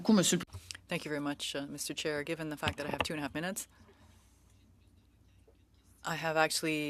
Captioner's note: speaking French